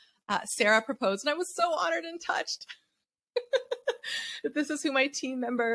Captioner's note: laughs